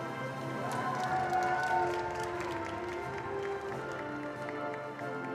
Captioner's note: attendees applauding